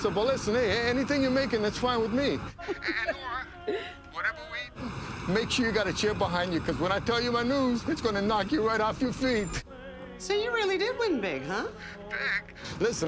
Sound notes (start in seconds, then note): 2.5 Nora laughs